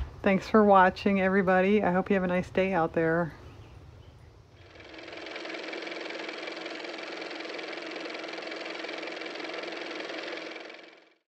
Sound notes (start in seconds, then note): 8.3 car motor